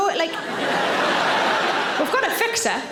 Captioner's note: audience laughing